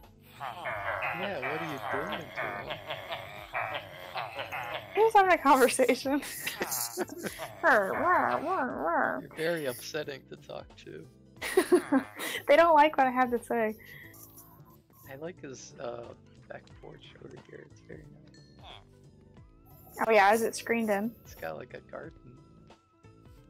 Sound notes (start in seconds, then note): 6.1 makes some Villager noises of her own